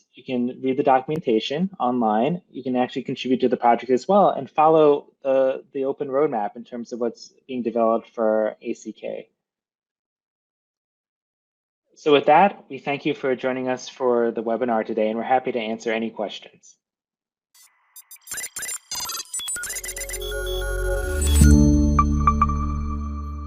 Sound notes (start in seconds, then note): 17.8 electronics beeping; 19.8 ethereal music